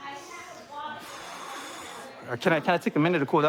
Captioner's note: exhales